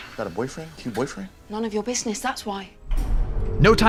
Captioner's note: electronics powering down